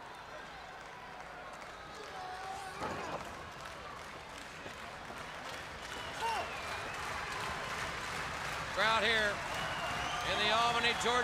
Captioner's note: crowd cheering